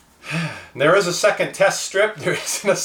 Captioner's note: sighs